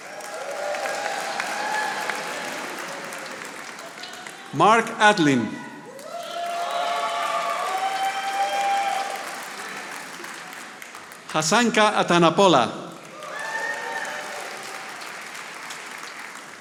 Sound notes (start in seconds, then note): 0.0 audience applauding